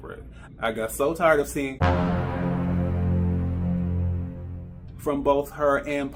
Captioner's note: dramatic Gasps